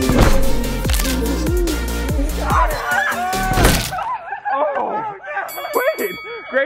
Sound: crunch; laughing; bell dinging

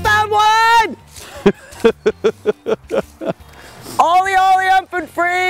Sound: laughing

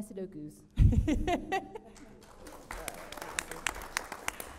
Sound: audience applauds

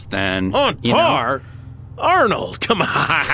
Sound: laughs

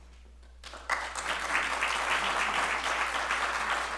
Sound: applause

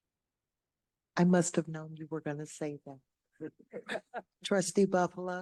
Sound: laughter

